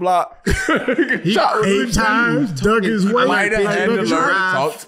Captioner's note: laughing